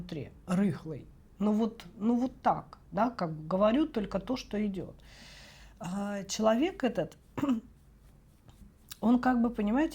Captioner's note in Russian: откашливается